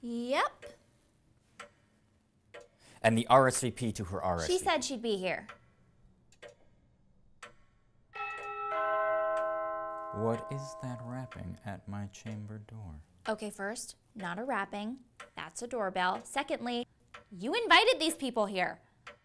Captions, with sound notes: Yep. And the RSVP to her RSVP-- She said she'd be here. *doorbell* What is that rapping at my chamber door? Okay first--not a rapping. That's a doorbell. Secondly, you invited these people here!